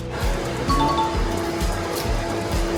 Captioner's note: jingle sound effect